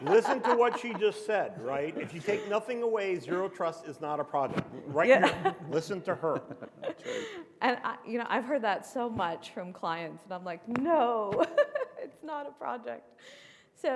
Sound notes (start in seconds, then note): 4.9 chuckles; 6.9 panelists chuckle; 11.4 chuckles